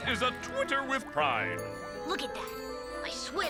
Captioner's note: sparkles tinkling